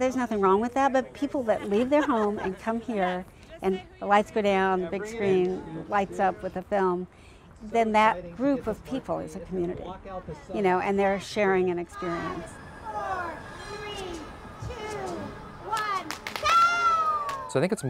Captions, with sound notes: There's nothing wrong with that, but people that leave their home and come here, and the lights go down, big screen lights up with the film, then that group of people is a community, you know, and they're sharing an experience. - [Crowd] Five, four, three, two, one! (cheers from crowd)